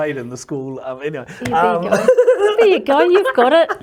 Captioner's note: laughs